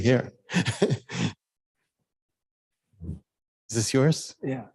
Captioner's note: indistinct conversation